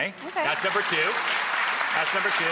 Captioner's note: audience applauding